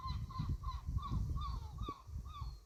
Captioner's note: seagulls calling